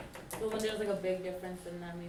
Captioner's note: voiceover